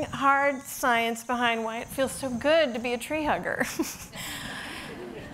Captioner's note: audience laughing; laughs